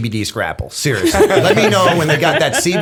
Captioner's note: laughter